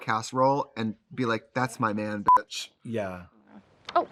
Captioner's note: beep